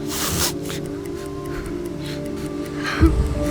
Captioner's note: bomb ticking